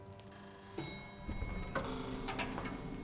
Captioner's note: elevator dings